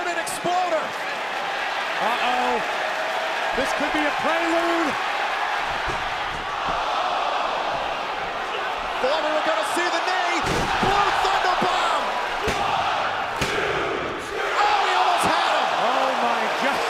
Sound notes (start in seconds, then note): 12.6 fans chanting